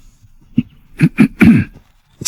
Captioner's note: cough cough